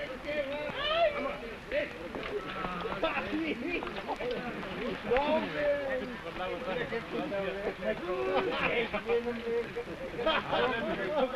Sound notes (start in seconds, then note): 0.6 men laughing; 0.7 men shouting